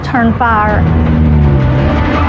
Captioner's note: tiTires screreeching